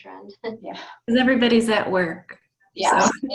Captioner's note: laughing